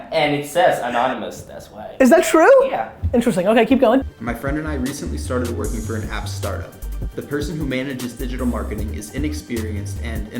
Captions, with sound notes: - And it says anonymous, that's why. - Is that true? - Yeah. - Interesting. Okay, keep going. - [Voiceover] "My friend and I recently started working "for an app startup. "The person who manages digital marketing is inexperienced and,